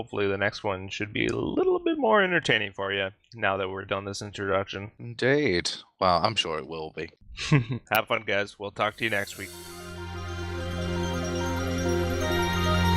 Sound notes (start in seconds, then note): 7.4 chuckling; 10.9 ♫ Progressive Electronic Rock Music ♫